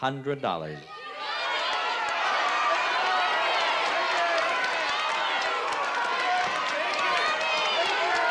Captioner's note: crowd clamoring